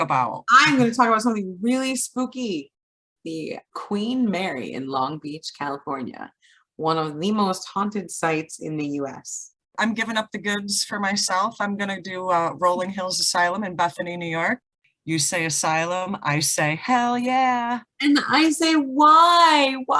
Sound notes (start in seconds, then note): none